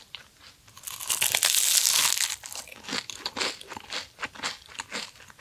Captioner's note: Crunch